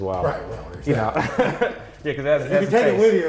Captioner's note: laughs